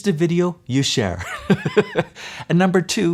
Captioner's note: laughs